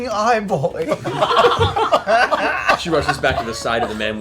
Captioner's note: laughter